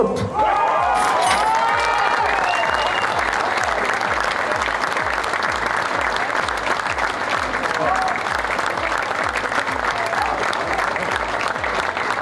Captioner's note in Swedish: Applåder